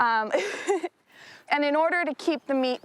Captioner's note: laughs